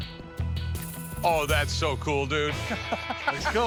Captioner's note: laughing